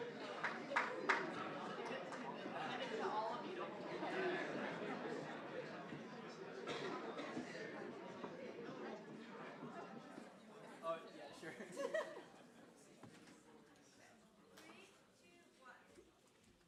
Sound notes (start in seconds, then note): 11.6 chuckles